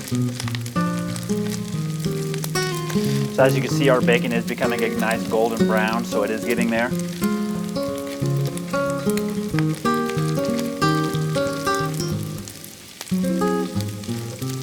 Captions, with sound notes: So as you can see, our bacon is becoming nice golden brown, so it is getting there. (relaxing music) (bacon continues sizzling)